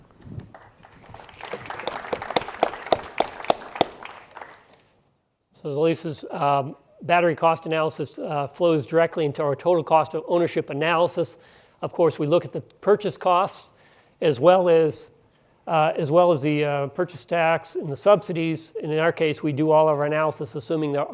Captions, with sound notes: [applause] -As Lisa's battery cost analysis flows directly into our total cost of ownership analysis. Of course, we look at the purchase cost as well the purchase tax and the subsidies. In our case, we do all of our analysis assuming